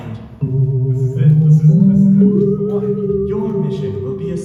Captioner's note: foreboding computer ambience